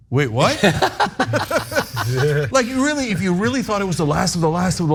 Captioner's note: laugh